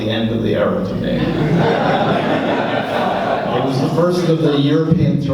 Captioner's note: laughs